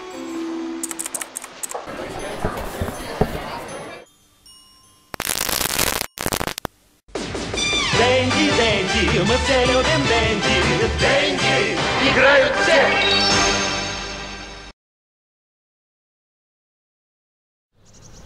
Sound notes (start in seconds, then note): 5.1 static; 7.1 in Russian